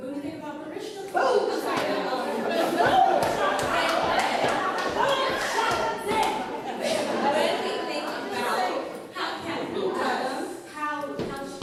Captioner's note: laughter